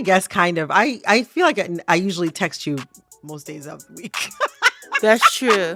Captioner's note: laughter